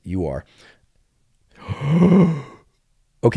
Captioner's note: inhales